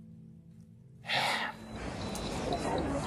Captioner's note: sighs deeply